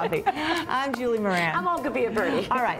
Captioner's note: laughter